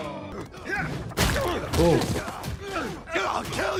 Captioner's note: grunting